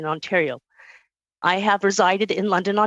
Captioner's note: speaking alternate language